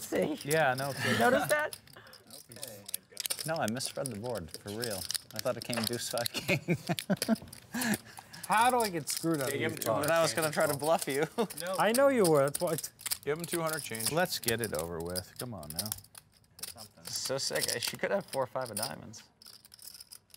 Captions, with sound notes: Let's see. >> Yeah I noticed that. >> Noticed that? >> No I misread the board, for real. I thought it came deuce five king. [LAUGH] >> How do I get screwed over? >> And I was gonna try to bluff you. [LAUGH] >> I know you were, that's why. >> Give him 200 change. >> Let's get it over with. Come on now. >> So sick, she could have 4 5 of diamonds.